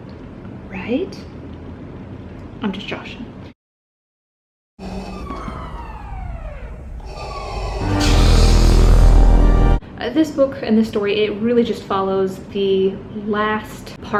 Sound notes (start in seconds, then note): 4.5 Darth Vader breathing; 4.8 sirens blaring; 7.9 lightsaber ignites